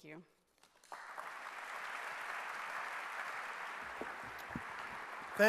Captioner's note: clapping